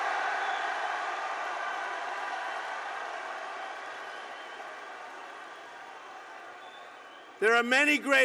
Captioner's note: applause